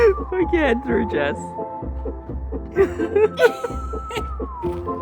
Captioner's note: laughing